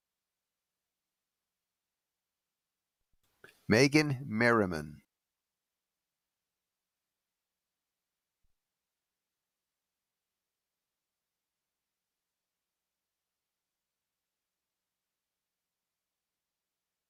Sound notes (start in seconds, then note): none